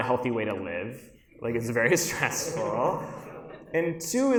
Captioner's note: audience laughs